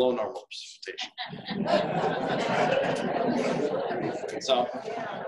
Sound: audience laughing

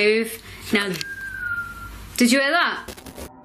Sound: whistles

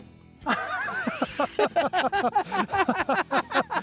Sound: laughing

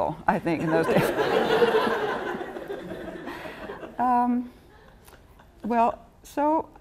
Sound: laughter

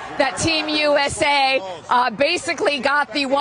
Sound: cheers and applause

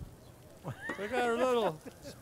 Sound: laughter

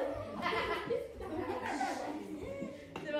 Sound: laughs

